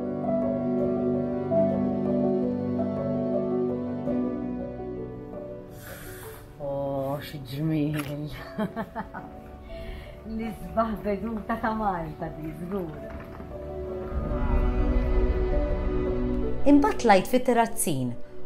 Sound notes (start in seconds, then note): 0.2 pensive music; 8.4 chuckles